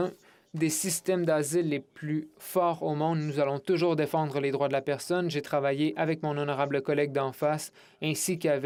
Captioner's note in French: voix de l'interprète